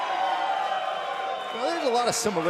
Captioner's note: cheers and applause